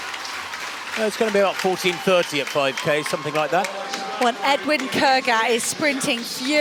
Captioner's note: applause